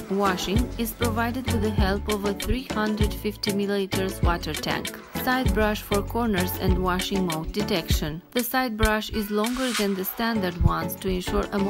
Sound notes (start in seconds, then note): 3.8 washing